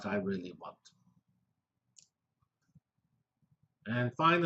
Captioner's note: pause